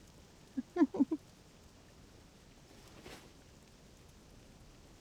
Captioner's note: giggling